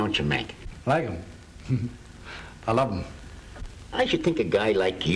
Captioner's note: giggles